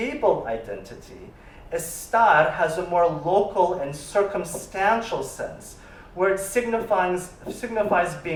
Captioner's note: spanish